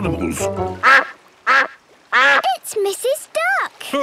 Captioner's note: quacking